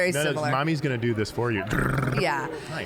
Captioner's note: airplane noises